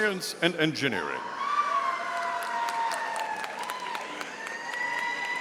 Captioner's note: audience cheering